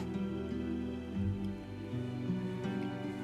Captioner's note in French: none